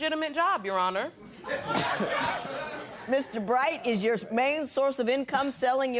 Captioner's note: laughter